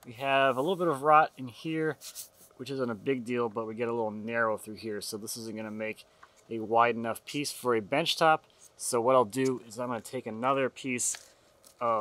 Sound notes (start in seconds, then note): none